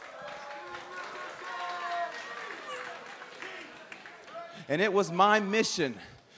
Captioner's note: crowd cheering